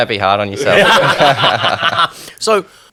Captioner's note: everyone laughing